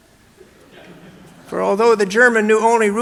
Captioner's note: audience laughing